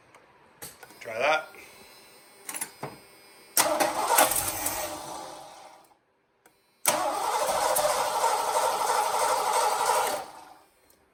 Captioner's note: engine